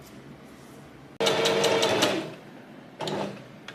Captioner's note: sewing machine surges